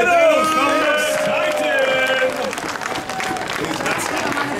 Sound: audience cheering

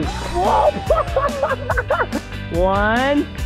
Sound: laughing

